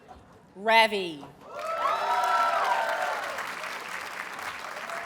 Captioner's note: audience cheers and applauds